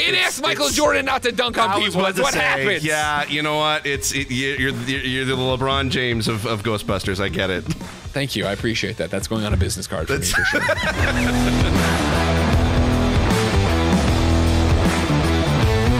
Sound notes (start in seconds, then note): 10.1 laughs; 12.4 upbeat music